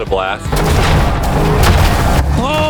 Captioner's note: milkshake exploding